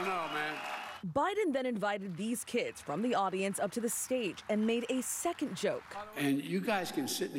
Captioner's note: applause